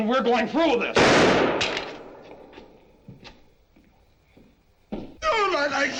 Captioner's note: gunshot